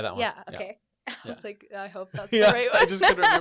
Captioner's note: both laugh